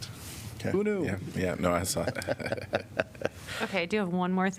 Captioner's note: laughter